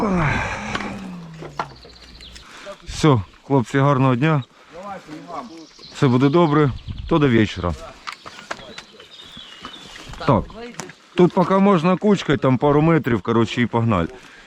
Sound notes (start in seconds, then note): 0.0 sighs